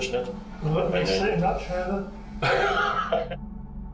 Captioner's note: laughs